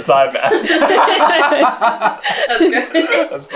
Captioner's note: laughter